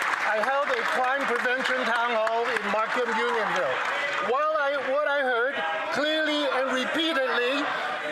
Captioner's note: cheering and Applause